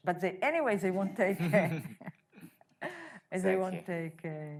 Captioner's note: laughing